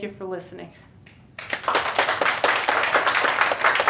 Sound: applause

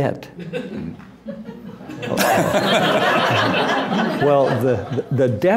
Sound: laughter

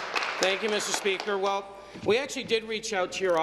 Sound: applause

